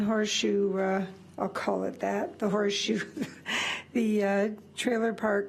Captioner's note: laughs